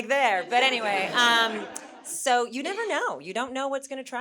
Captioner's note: audience chuckling